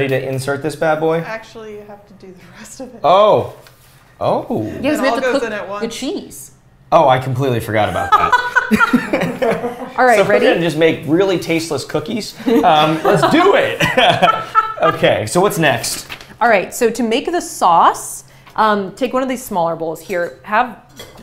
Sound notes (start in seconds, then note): 8.0 laughter